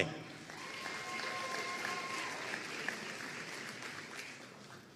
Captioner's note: audience cheering and applauding